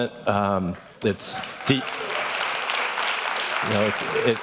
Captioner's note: clapping